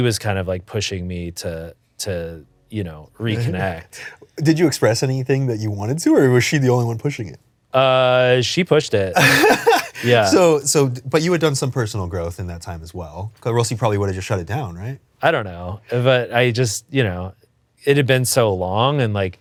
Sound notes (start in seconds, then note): 9.1 laughs